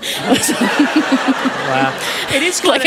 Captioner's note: laughter